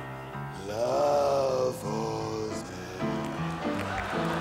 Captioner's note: in comically low voice; crowd laughs